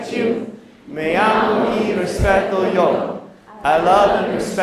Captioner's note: non-english speech